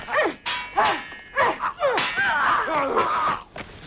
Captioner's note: swords clanging; both grunting